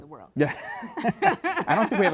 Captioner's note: laughing